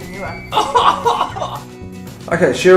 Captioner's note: laughs